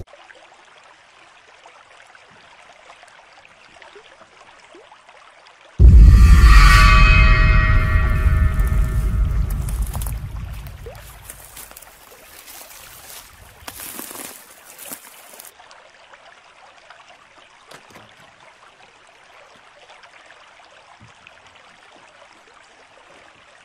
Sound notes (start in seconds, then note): 0.2 nature sounds; 5.8 scary whoosh; 12.2 nature sounds, walking through leaves; 15.4 nature sounds